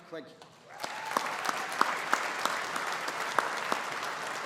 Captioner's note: audience applauding